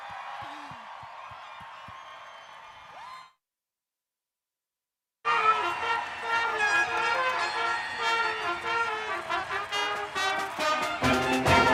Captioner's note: cheering and applause